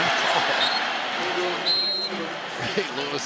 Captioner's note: whistle